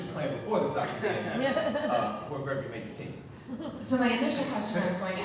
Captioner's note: audience laughing